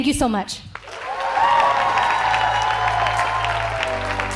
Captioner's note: cheers and applause